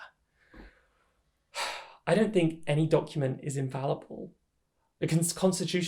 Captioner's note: sigh